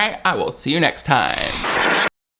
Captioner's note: static crackling